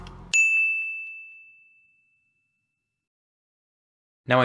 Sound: bell rings

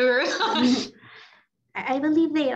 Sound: laughs

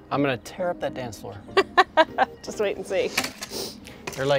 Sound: laughs

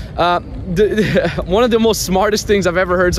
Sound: laughing

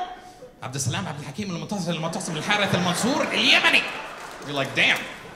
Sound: speaks in foreign language

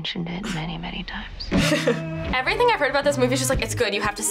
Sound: chuckles

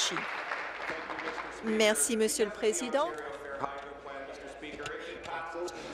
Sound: applause

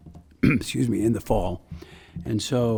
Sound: coughs

